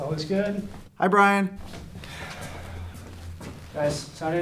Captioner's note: sighs